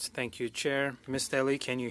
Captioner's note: speaking French